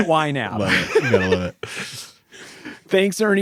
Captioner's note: laughing